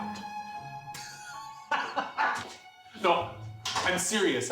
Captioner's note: laughing